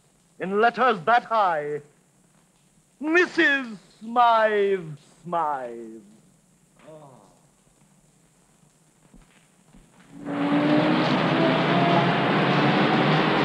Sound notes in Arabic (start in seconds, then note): 7.1 يتأوه; 10.2 المركبات تصدر صوتا